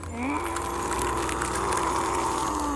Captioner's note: grunts in pain; ice crackles